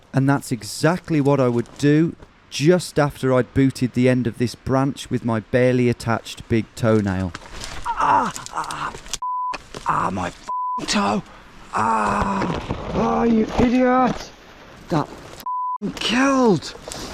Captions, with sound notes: And that's exactly what I would do just after I'd booted the end of this branch with my barely attached big toenail. Ah! (exclaims) (beep) Ah, my (beep) toe! Ah! Ah, you idiot. That (beep) killed!